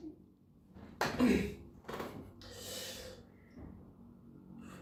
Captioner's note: clears throat